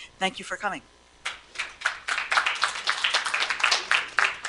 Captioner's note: applause